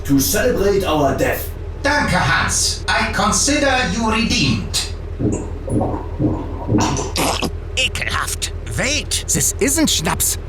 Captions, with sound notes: To celebrate our death. Danke, Hans. I consider you redeemed. [GLUG GLUG] [SPITS] Ekelhaft! Wait, this isn't Scnapps...